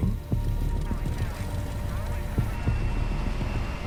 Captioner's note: engine rumbling